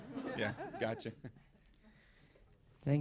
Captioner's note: laughter